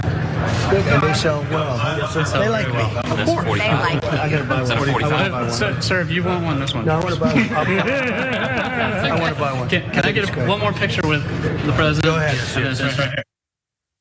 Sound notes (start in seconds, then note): 7.4 laugh